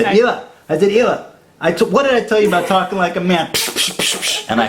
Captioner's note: imitates slapping